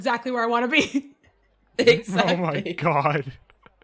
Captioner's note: laughing; laughs